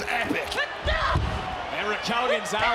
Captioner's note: Raquel grunts